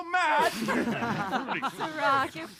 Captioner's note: laughter